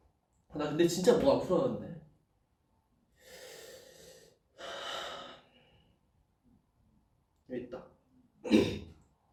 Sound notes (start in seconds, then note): 3.1 breathes in and out